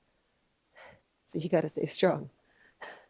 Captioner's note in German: seufzt